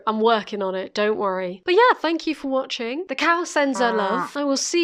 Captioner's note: moo sound